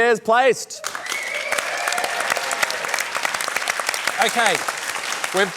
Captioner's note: cheering applause